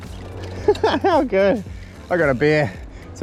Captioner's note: laughs